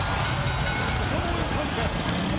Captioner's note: bell rings